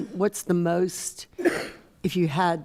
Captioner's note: coughs